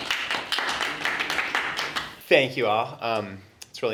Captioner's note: applause